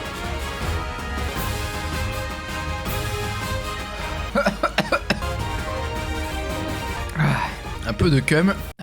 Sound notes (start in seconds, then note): 4.3 coughs and drinks the Yop